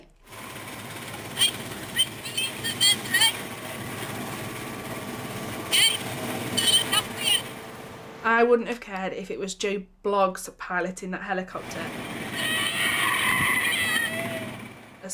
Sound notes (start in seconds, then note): 0.3 helicopter whirring; 3.5 helicopter whirring; 11.5 helicopter whirring; 12.2 screams